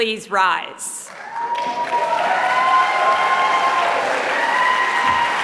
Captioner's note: applause